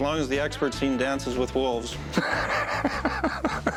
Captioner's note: laughs